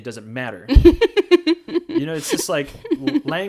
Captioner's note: laughs